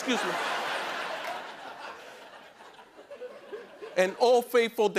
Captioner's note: laughter